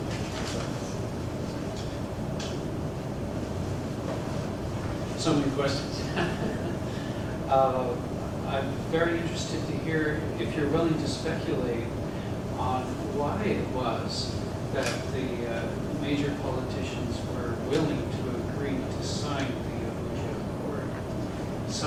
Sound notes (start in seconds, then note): 6.0 laugh